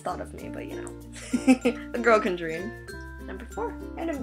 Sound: laughs

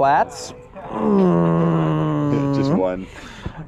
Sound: grunts exaggeratedly

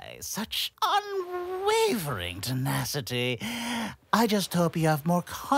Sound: deep breath

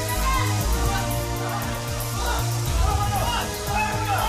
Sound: clamoring

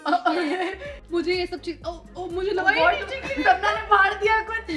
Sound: chattering

